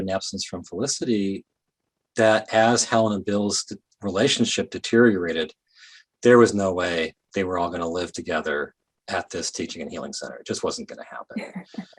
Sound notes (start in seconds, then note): 11.4 laughing